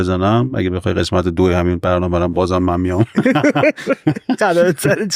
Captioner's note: laughs